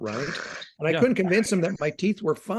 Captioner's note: laughing